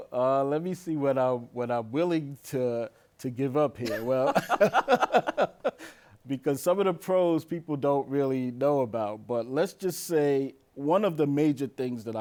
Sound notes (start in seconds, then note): 0.8 laughs; 3.8 both laughing